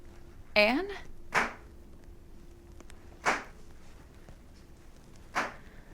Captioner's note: knife thuds